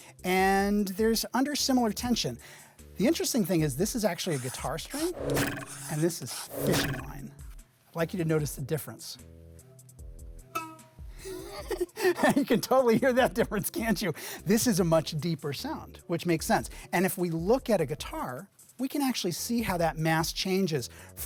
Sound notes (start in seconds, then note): 4.2 pencil scratching; 4.9 arrow twanging; 11.2 laughing